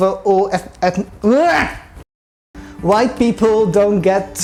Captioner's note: frustrated noises